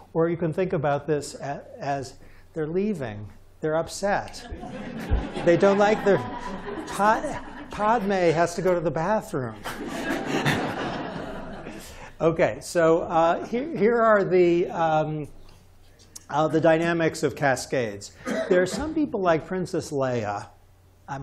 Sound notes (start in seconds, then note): 4.4 laughter; 9.6 chuckles